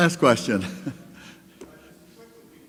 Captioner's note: laughs